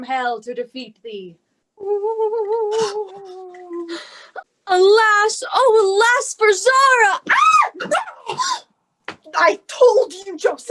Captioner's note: Beth makes demon noises